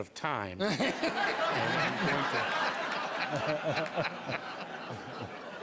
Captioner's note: applause